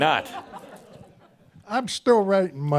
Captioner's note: some chuckles